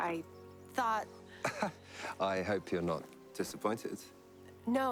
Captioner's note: laughs